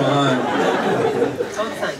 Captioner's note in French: rires public